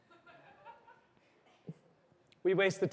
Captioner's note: laughter